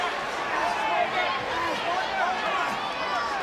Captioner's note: people yelling